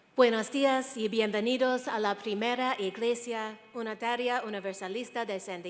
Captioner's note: speaking in foreign language